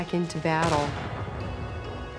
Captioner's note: gun firing